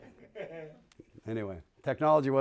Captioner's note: laughter